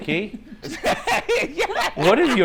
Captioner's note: Ricky laughs